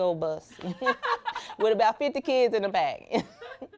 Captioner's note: laughter